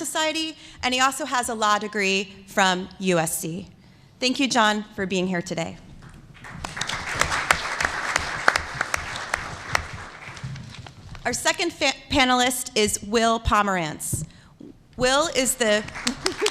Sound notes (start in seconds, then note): 6.3 applause